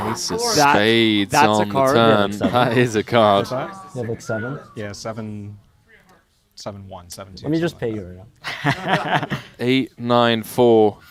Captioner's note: laughs